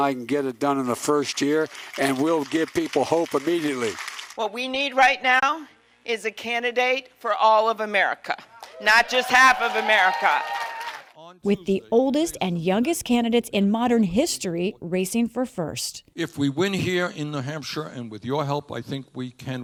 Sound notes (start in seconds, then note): 3.5 applause; 8.9 cheering and applause